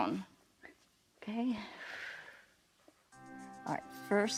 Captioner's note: exhales